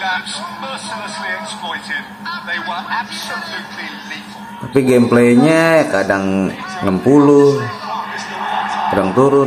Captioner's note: laughs